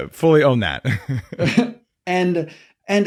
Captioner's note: chuckling